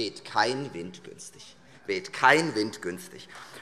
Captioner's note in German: Beifall Freie Demokraten